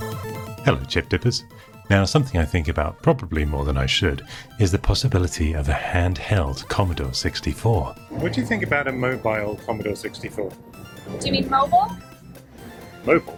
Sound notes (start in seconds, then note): 7.5 British accent; 10.7 American accent